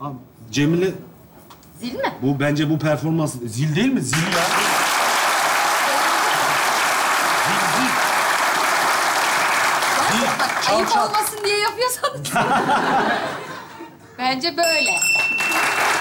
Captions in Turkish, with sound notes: Cemile. -Zil mi? -Bence bu performans... ...zil değil mi? Zil ya. (Alkış sesleri) Zil zil. -Gerçek bak, ayıp olmasın diye yapıyorsanız. Bence böyle. (Zil sesi)